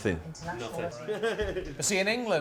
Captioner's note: laughter